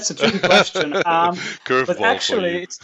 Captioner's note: laughs